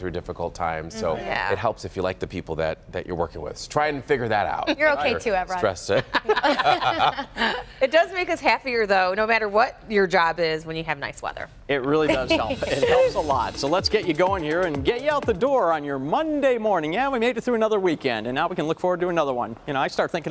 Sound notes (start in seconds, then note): 10.2 laughter